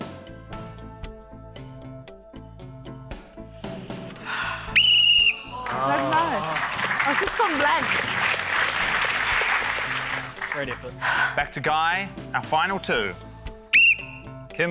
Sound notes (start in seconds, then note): 0.2 tense music; 4.2 sighs; 4.6 blows whistle; 8.9 applause; 13.7 blows whistle